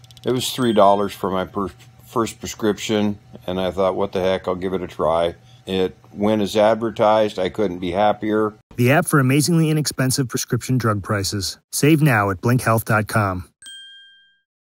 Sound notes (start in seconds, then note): 13.6 bell ringing